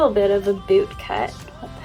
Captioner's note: laughs